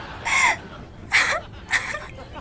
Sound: crying

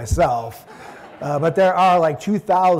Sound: audience laughing

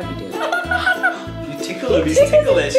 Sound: Elmo laughs

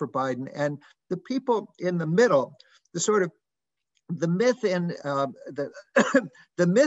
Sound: cough

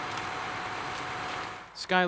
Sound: engine rumbling

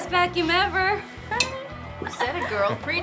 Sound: glasses clink

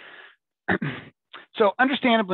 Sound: clears throat

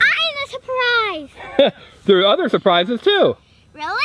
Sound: laughs

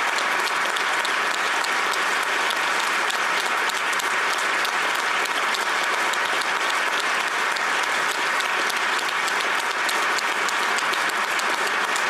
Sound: applause

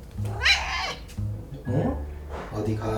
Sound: meows insistently

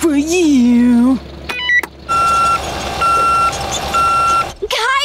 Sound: beeping

